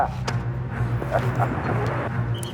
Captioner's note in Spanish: Risas